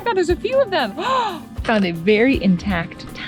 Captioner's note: surprise gasp